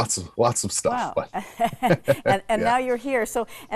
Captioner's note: chuckles; chuckling